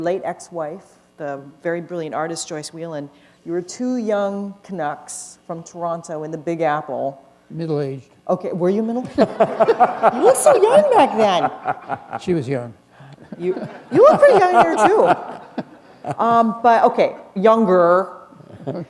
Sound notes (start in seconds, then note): 9.1 laughter